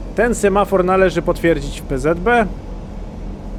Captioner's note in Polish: none